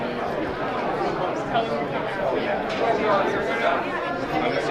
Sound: group chattering

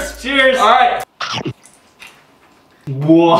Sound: gushing

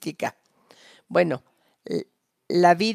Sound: a través de intérprete

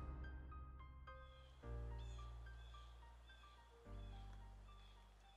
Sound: birds chirping; gentle music

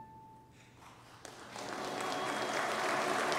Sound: congregation applauds

